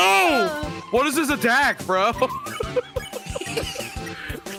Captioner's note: laughs